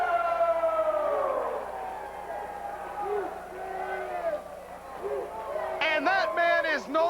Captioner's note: crowd cheering